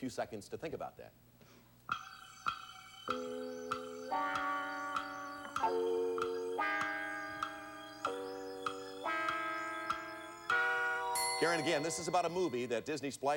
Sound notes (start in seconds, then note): 3.0 clock ticking